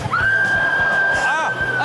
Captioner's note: person screams